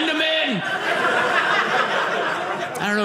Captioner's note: audience laughing